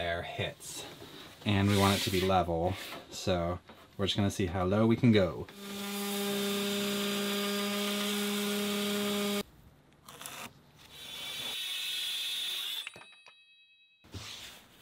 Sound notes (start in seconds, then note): 5.9 sanding; 10.9 sawing